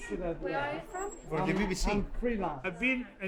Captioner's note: voiceover